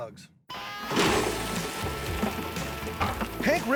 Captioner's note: crawdads flapping on table